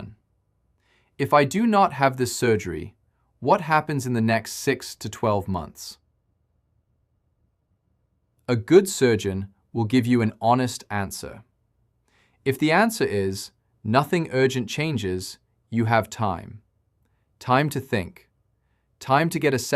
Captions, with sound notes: If I do not have this surgery, what happens in the next six to twelve months? [pause] A good surgeon will give you an honest answer. If the answer is nothing urgent changes, you have time. Time to think. Time to get a second opinion.